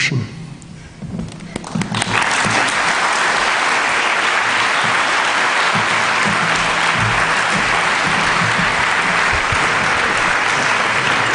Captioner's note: applause